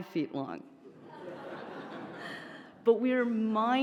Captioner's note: audience laughs